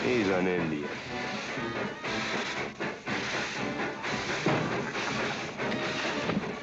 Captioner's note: train rumbling & crowd noise; loud bump